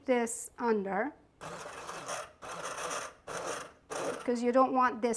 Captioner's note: blender whirring